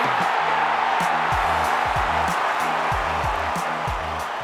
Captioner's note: crowd cheering